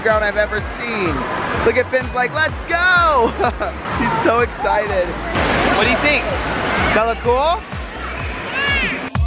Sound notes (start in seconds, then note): 3.9 laugh